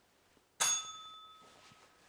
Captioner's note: bell rings